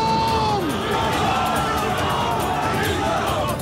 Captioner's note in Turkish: Hep bir ağızdan